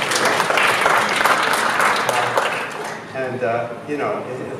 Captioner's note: applause